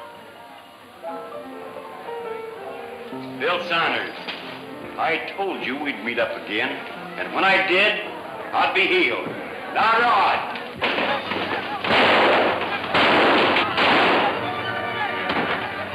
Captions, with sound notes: - Bill Saunders, I told you we'd meet up again, and when I did, I'd be healed. Now draw! (guns roaring) (dramatic music)